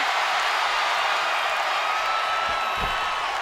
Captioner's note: crowd cheers